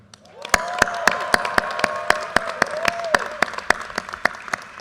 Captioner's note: audience cheers and applause